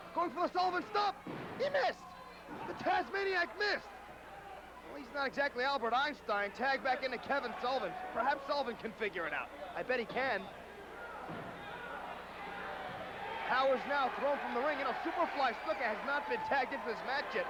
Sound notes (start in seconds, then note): 10.9 crowd cheering